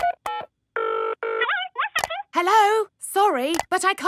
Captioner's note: dials phone; on phone